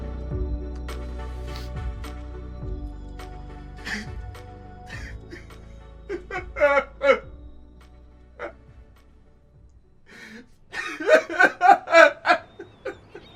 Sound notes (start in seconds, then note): 4.2 sobbing